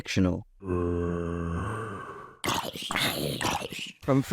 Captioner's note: Minecraft zombie sounds